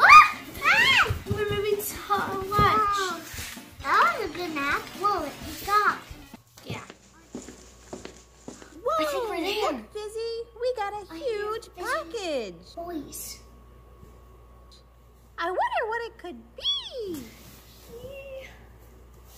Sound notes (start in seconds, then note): 5.7 footsteps